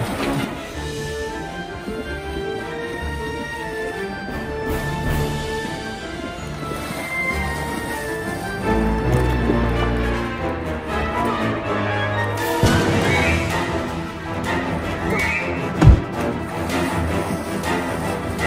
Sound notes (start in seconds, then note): 0.1 eerie music continues; 6.2 eerie music continues; 6.2 water sloshes; 15.8 case thuds